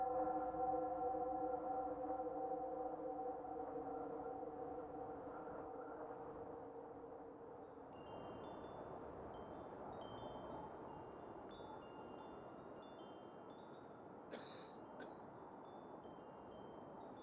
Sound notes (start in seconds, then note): 7.9 wind chimes ring